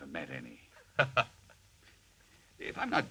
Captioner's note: Albert laughs